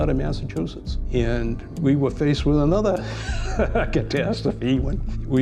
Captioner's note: laughs